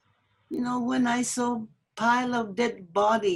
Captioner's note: through translator